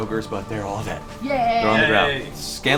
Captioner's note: all cheer